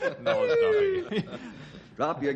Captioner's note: laughing